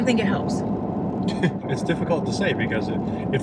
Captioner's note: chuckles